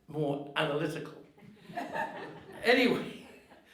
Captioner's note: audience laughing